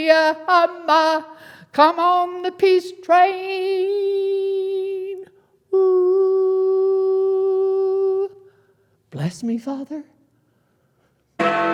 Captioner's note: bell rings